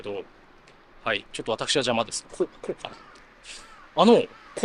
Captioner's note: laughs